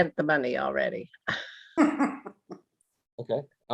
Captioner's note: laughing